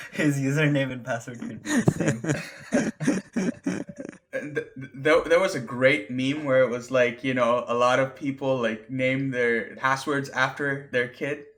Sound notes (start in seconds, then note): 1.6 laughter